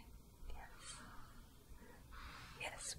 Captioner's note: brushing fabric